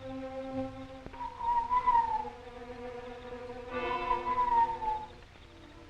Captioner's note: whistling call